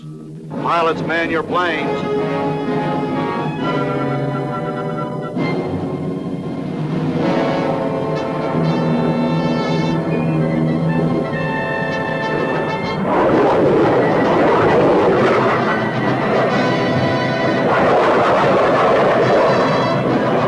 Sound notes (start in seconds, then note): 2.0 suspenseful music; 8.7 plane engines roaring; 12.7 plane engines revving